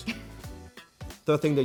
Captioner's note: laughing softly